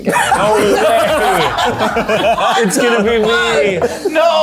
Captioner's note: everyone laughing